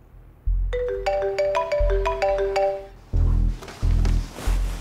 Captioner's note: Phone ringing